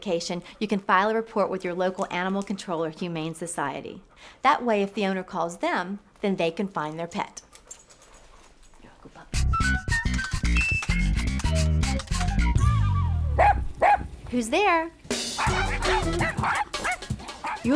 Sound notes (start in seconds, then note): 13.4 dog barking; 15.3 dogs barking